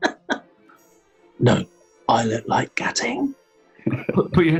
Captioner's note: sniggering; whispers